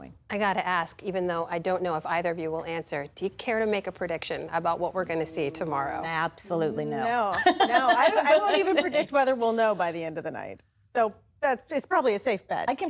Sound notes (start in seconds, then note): 7.3 laughter